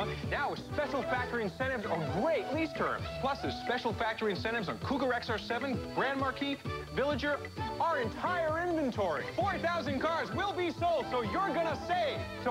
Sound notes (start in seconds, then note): none